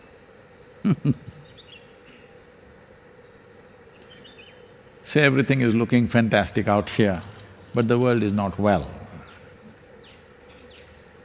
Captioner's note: laughs